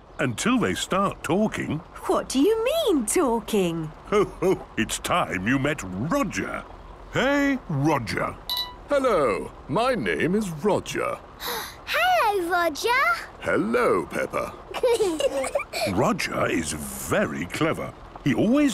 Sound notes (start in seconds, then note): 11.4 gasps; 14.7 children giggling